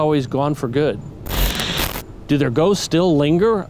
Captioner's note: eerie static